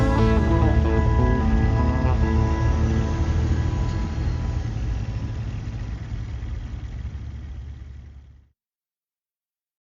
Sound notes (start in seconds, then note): 3.4 truck idling